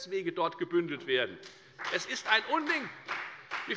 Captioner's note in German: Beifall bei der FDP